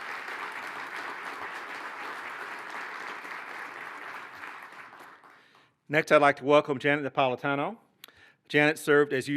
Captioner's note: applause